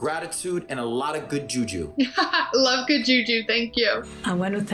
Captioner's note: laughs